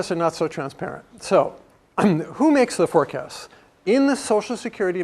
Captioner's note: cough